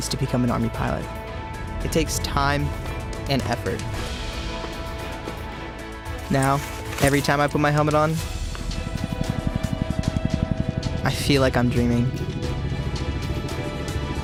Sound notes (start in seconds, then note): 8.1 helicopter blades whirling